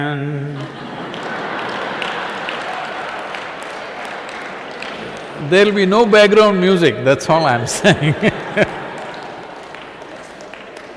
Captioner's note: laughter